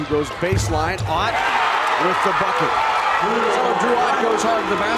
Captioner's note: crowd cheers